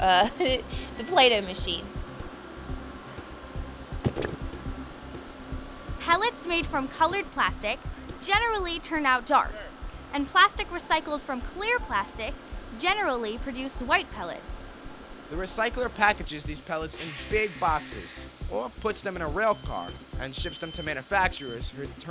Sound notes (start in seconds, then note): 0.1 laughing; 4.0 squelching